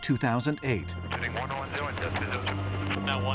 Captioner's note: radio